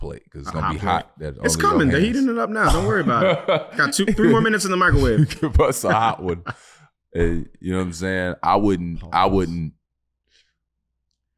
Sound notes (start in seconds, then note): 5.2 laughing